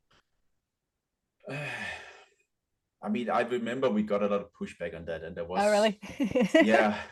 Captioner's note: laughs